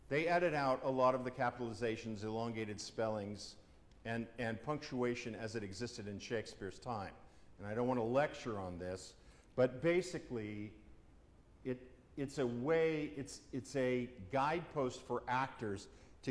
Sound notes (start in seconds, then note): none